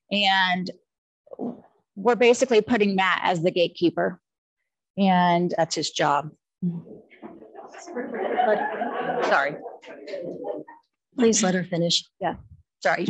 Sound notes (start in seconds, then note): 7.3 audience chuckling